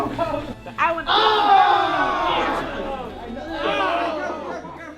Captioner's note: team yells